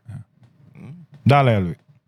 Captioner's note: speaking In Foreign Language